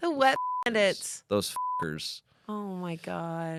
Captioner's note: beep